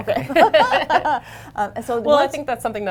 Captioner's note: laughter